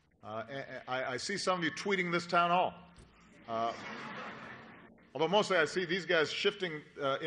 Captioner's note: laughter